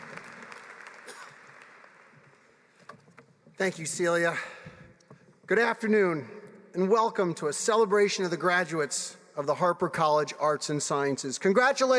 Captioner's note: applause